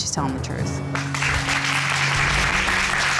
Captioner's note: applause